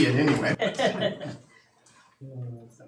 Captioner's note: laughing